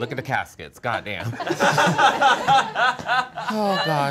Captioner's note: all laughing